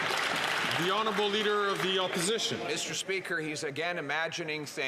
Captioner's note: some Applause